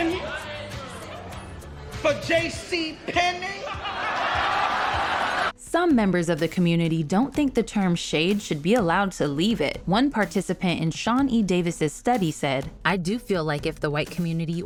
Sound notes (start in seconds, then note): 3.0 audience laughs